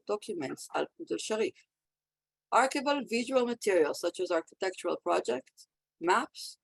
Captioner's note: Hebrew